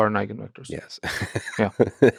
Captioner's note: laughs